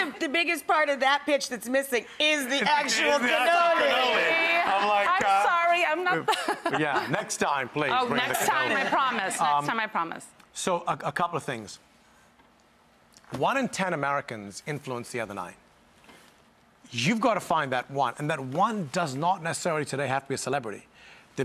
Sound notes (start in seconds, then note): 3.4 crowd laughing; 6.1 laughs softly